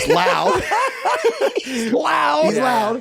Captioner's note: guys laughing